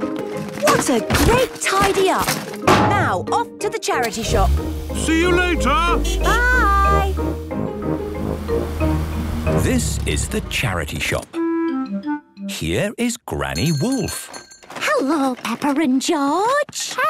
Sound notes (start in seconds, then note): 6.2 honking; 13.5 bell jingling